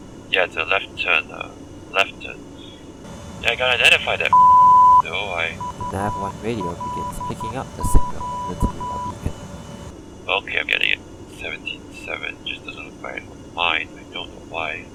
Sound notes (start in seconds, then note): 5.6 beeping sound